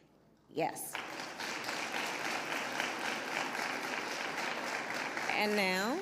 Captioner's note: applause